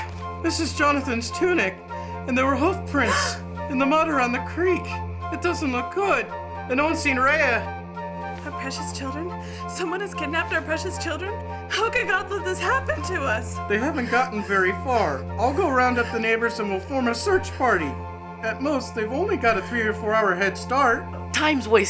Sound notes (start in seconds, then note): 3.1 מתנשפת